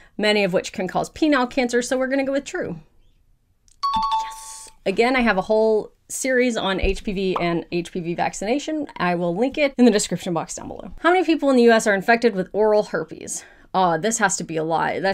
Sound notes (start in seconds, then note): 3.8 question dings